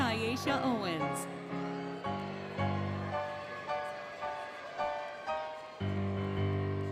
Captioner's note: applause, Cheering, Music; music, Cheering